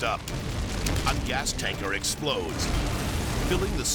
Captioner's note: explosion booms